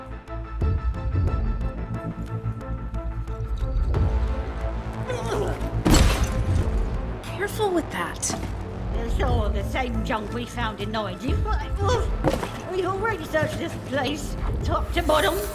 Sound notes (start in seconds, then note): 5.0 Bertha grunts; 5.8 clattering